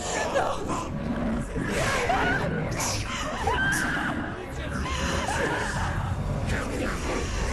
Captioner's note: screaming